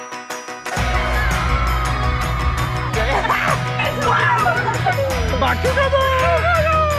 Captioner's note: upbeat music; laughing and cheering